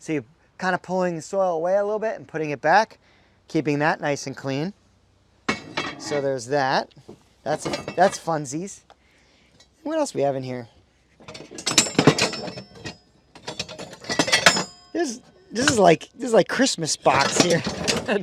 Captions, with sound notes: So you're kind of pulling the soil away a little bit and putting it back, keeping that nice and clean. So there's that. That's funsies. What else we have in here? (metal clanking) This is like Christmas box here.